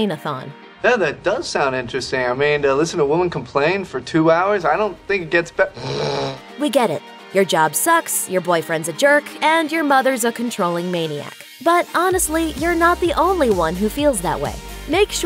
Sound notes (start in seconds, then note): 5.7 snores